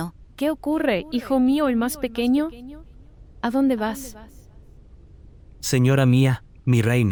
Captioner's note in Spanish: Voz - Virgen María